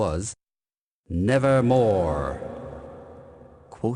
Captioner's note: echoing